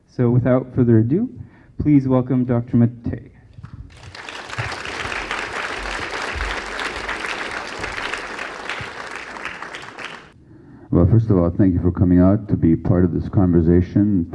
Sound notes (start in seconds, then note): 3.8 applause